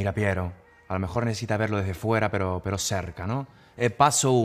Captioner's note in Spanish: acento italiano